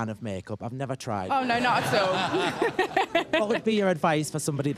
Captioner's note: laughter